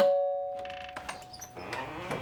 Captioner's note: doorbell ringing